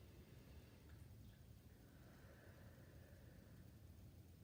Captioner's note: breathing deeply